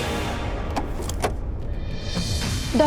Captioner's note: door opening